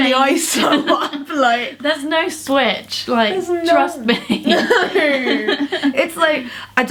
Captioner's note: both laugh